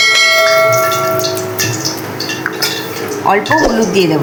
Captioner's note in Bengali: ঘণ্টা